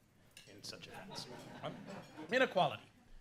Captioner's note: laughter